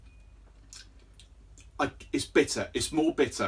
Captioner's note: lips smacking